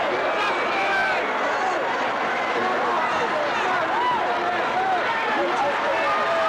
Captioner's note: audience chattering continues